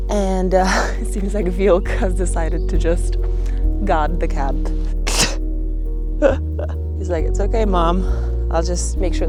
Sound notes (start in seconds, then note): 6.2 laughs